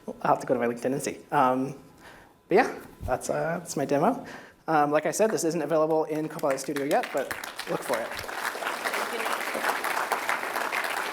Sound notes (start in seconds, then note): 6.2 applause